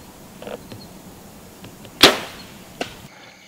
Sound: object thuds

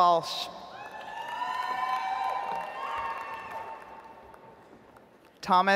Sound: audience applauds

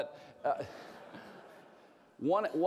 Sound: laughter

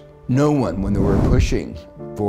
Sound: air swooshing

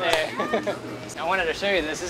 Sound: laughs

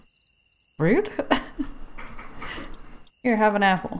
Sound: laughs

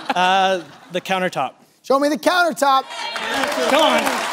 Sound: laughter

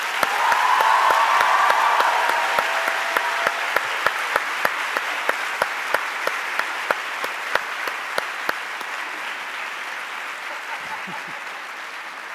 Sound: cheers and Applause

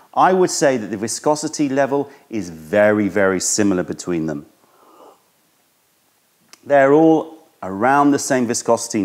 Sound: sips tea

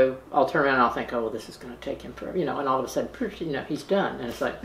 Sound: noise effect

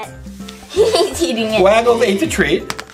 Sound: assistant Laughs

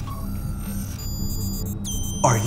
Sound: beeping

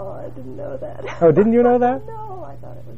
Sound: laugh

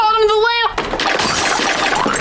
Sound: shattering

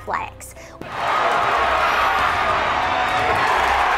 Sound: crowd applauding

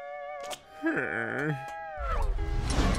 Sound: groaning

